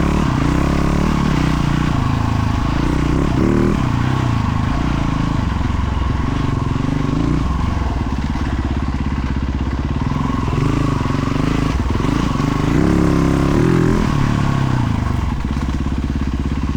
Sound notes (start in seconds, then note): 3.8 engine roaring